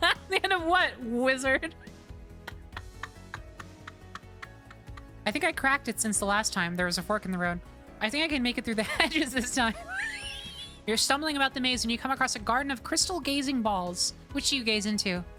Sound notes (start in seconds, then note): 0.0 laughter; 2.4 quiet Laughter; 9.8 wheeze